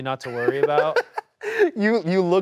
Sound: laughs

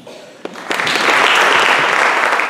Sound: applause

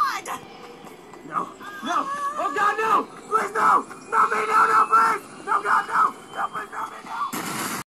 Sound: Skull Tropper Yelling

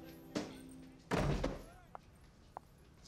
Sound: door closes; footsteps

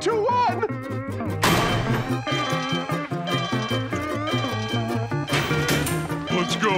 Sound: alarm blaring

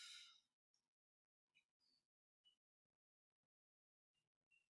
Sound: silence

